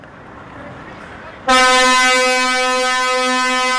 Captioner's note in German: Lkw-Hupe ertönt lange